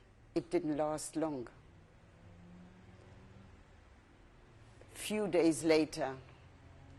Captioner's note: pauses for 3 seconds